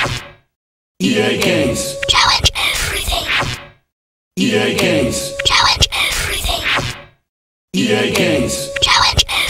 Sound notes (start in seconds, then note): 2.0 whispering repeatedly